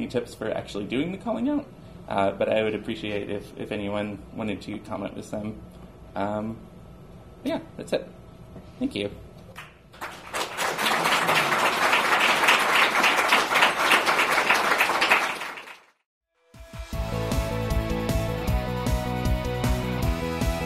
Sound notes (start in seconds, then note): 9.9 audience applauds; 16.5 spirited instrumental music